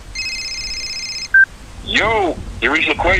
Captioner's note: phone rings